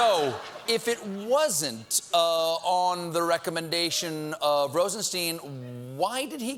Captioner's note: laughter